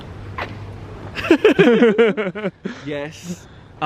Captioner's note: both laughing